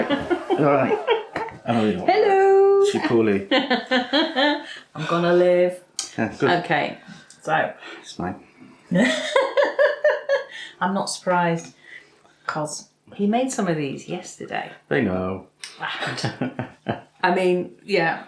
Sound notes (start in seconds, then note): 4.3 laffs